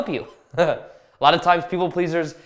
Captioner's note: chuckles